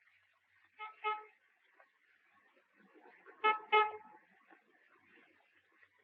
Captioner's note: horn honking